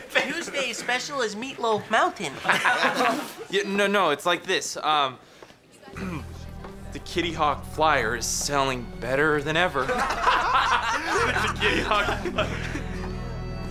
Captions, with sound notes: Tuesday's special is Meatloaf Mountain. No, no, it's like this. Um... [clears throat] The Kitty Hawk Flyer is sailing better than ever. -[all laughing] -The Kitty Hawk Fly...